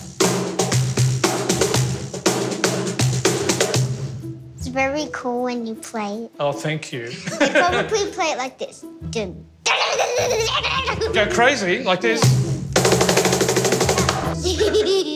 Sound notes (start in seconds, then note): 0.0 drumming; 9.4 immitates fast drumming; 12.1 fast drumming; 14.3 giggles